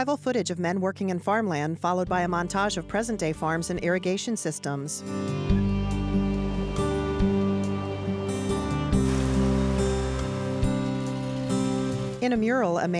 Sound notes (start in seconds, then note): 8.9 rain pattering; 9.2 engines rumbling